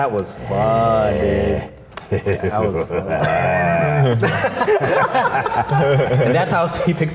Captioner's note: group laughing; Scott laughing evilly